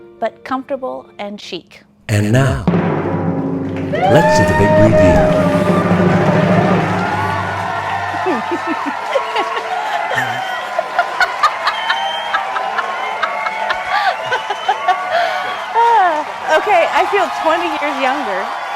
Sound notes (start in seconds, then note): 5.9 audience applauding; 5.9 woman laughing